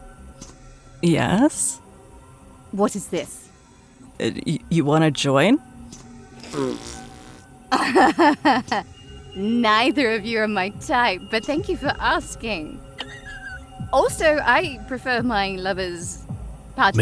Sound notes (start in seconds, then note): 7.7 snickers